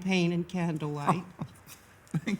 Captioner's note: laughs